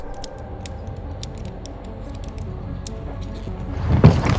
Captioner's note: metal clanking